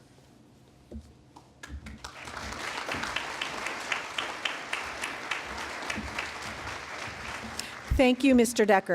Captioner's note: applause